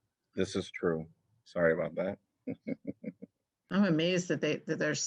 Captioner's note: laughter